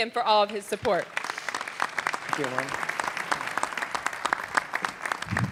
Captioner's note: audience clapping